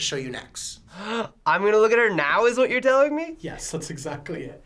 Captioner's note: gasps